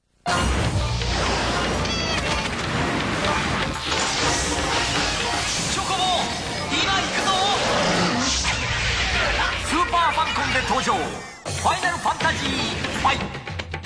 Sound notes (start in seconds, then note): 0.2 exciting music; 1.8 squawking; 5.6 speaking in Japanese